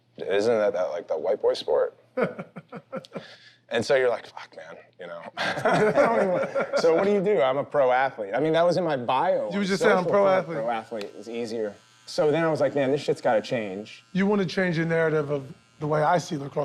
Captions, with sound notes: "Isn't that like a white boy sport?" - [laughs] - And so you're like, "Fuck, man." You know? [laughter] So what do you do? I'm a pro athlete. I mean, that was in my bio. It said "pro athlete." - You just said "pro athlete"? - It was easier. So then I was like, "Man, this shit's got to change." - You want to change the narrative of the way I see lacrosse.